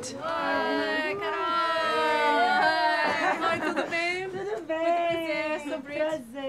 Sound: speaking in foreign language

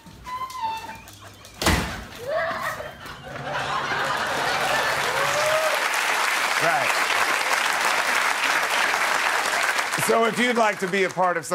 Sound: crying; applause

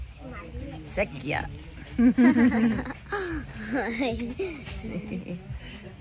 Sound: laughter

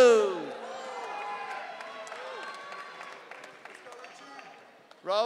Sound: audience cheering

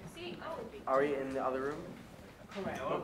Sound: overlapping chatter

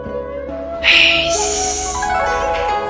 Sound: sighs

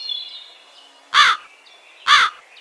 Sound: crow crowing

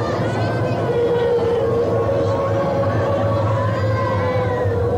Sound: crowd exclaiming

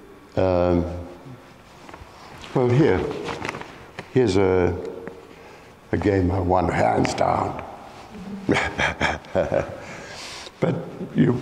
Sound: laughs

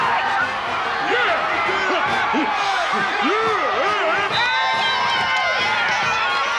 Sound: man cheering; whistle shrills; women cheering

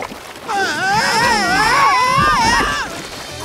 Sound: screaming

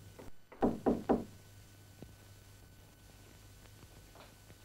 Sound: knock on door

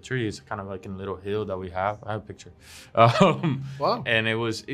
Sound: laughs

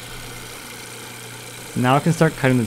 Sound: saw buzzing

